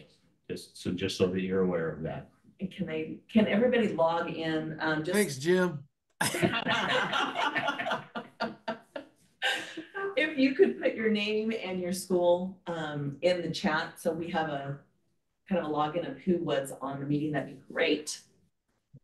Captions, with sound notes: So just so that you're aware of that. - Can everybody log in? - Thanks, Jim. (all laughing) - If you could put your name and your school in the chat so we have a kind of a login of who was on the meeting, that'd be great.